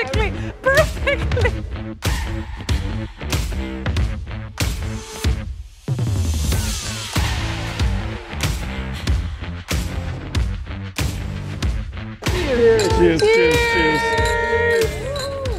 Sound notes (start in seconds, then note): 2.4 upbeat music; 12.3 glasses clanking